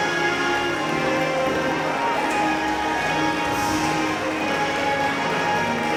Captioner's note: applause